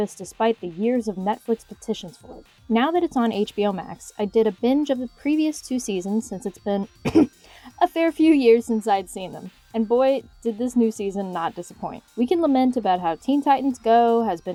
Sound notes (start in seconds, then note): 7.0 cough